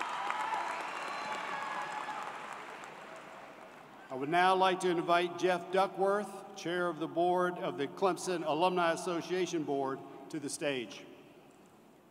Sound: cheers and Applause

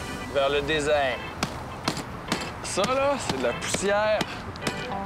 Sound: duffel bag thumping

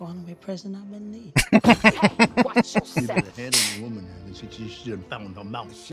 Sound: laughing

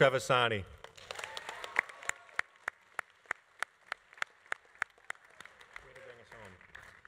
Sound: audience applauding; audience cheering

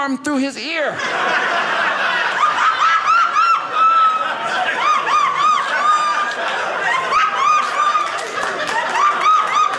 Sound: audience laughing; audience applauding

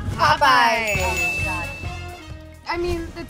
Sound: ding

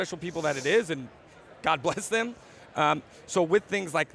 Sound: chuckles

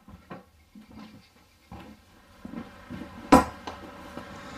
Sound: rustling sound; footsteps; thud

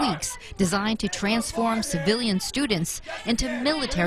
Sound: nat of yelling in hallway

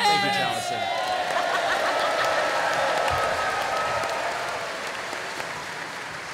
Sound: cheering

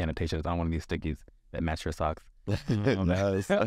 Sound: laughs

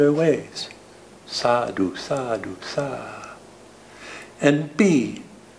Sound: speaking foreign language

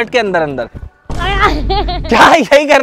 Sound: laughing

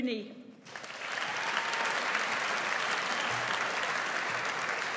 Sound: audience applauds

